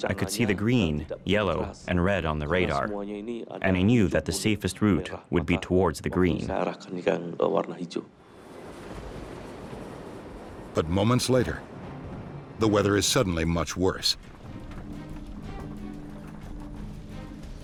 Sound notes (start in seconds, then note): 9.1 jet engines whining; 10.8 voiceover; 14.2 dramatic music